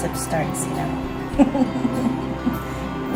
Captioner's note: laughs